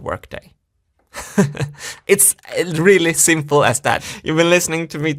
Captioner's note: laughs